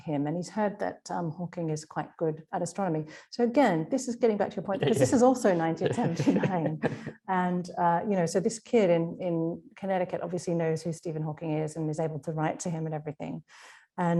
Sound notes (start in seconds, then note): 5.5 laughing